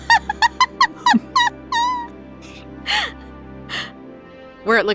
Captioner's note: laughs; cackles